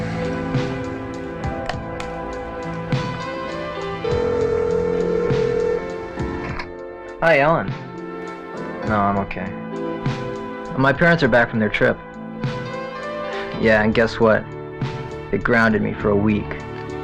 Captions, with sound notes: (slow synthesizer music) (phone ringing) - Hi Ellen, no I'm okay. My parents are back from their trip. Yeah and guess what they grounded me for a week.